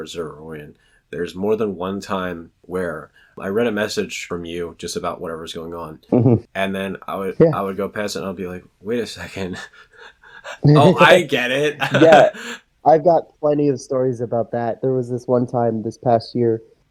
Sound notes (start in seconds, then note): 9.0 laughs